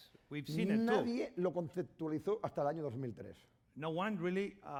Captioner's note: speaking spanish